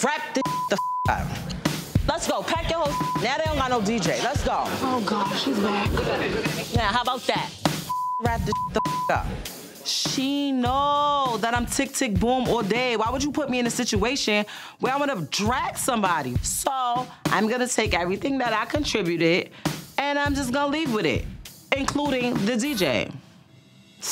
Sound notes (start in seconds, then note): 0.4 beep; 0.4 mid tempo drumbeat; 2.8 beep; 7.8 beep